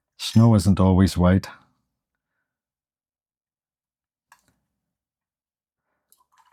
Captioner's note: silence